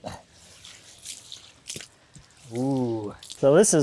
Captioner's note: water splashing